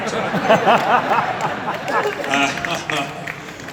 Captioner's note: audience Laughs